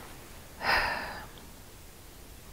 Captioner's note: another sigh